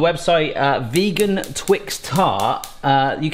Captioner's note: stove clicking